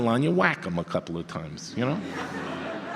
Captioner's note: audience laughter